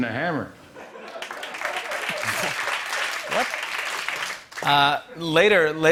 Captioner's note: laughter and applause